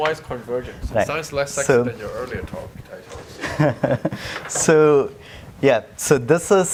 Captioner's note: laugh